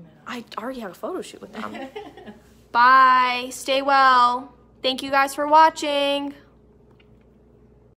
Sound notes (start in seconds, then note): 1.6 mama laughs